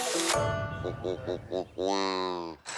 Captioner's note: quacking